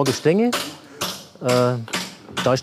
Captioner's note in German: Hämmern